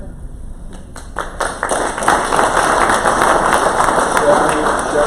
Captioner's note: crowd applause